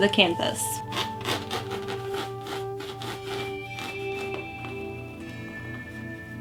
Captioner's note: pencil scratching on canvas